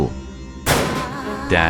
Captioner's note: door slams open